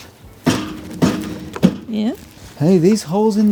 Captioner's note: metal clanking